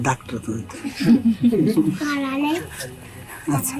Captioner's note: laughter